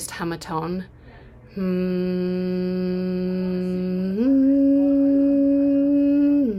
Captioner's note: humming